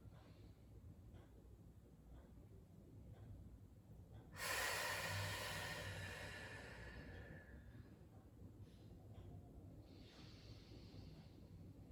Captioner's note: breathing